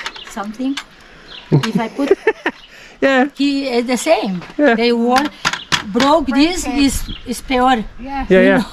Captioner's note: laughs